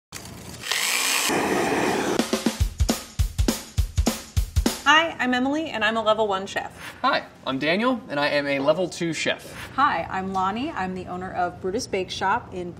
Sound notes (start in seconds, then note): 0.1 whisking; 0.5 food processor whirring; 0.6 blowtorch whooshing; 2.2 upbeat music